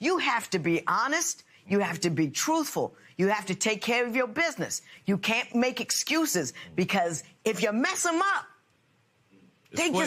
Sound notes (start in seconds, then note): none